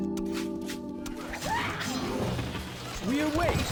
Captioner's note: sounds of battle